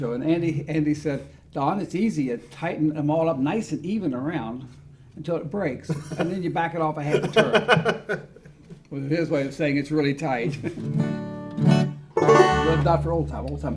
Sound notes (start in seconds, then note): 7.0 laughs; 11.1 guitar notes ring